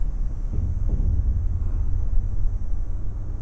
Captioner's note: distant mechanical sounds